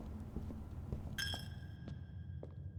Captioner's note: bell dings